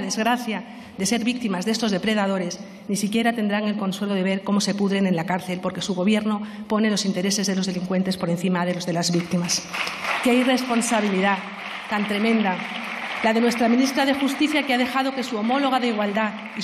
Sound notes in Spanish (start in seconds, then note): 8.7 Aplausos